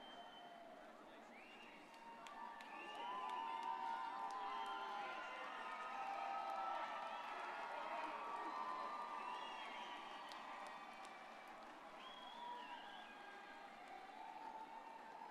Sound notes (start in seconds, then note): 2.0 crowd cheering